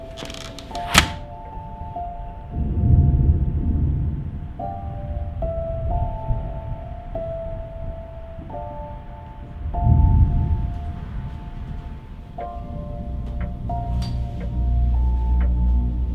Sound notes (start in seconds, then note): 2.4 thunder